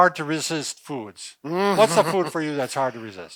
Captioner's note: moans